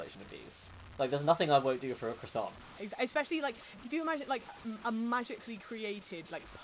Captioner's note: none